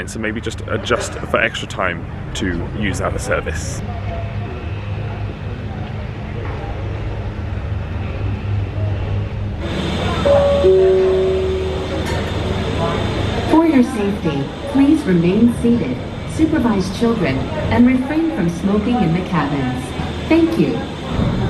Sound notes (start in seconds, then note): 4.6 machines roaring; 10.2 bells chiming; 21.3 machines roaring